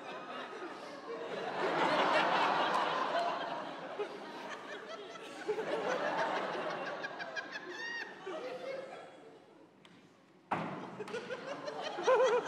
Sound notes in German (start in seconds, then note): 5.1 Lachen